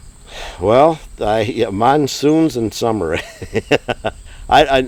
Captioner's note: laughs